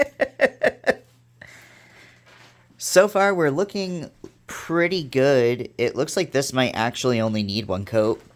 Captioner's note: laughs